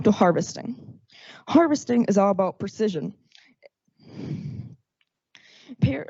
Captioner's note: exhales